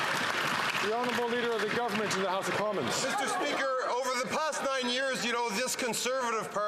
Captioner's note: some Applause